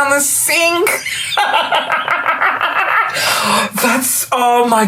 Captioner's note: belly laughs